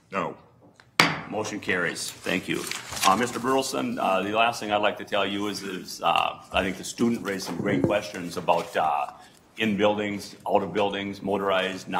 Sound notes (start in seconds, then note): 1.0 gavel bangs